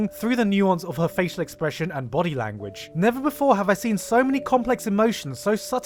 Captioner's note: none